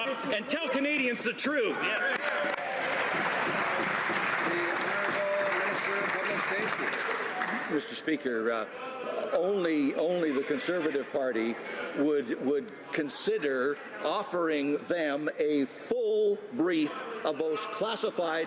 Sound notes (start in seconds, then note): 6.5 some Applause